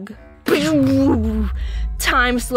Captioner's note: epic time slowing noises